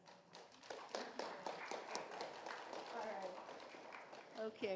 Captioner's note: audience clapping